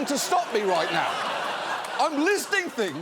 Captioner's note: audience laughing